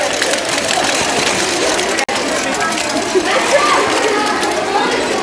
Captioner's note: rattling and whirring